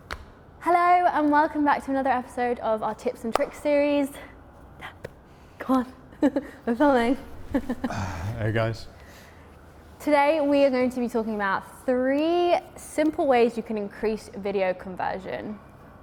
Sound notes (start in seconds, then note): 7.3 giggles; 7.7 sighs